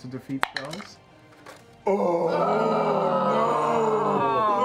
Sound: groaning

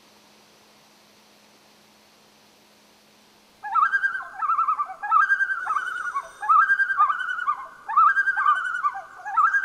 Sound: loon calls

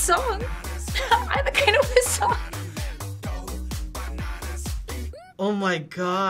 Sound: laughs

